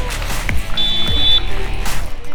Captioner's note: referee whistle